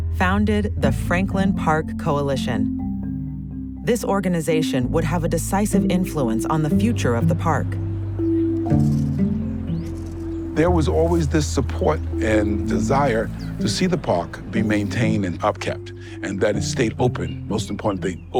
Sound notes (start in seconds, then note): 8.3 gentle music; 8.6 rake scraping